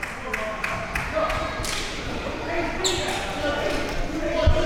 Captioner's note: audience chattering